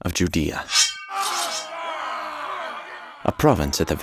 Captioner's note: swords ringing; men cheering